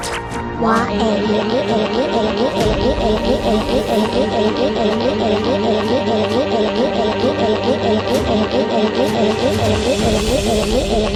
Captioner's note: crying